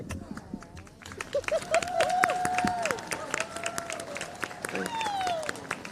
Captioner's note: cheers, applause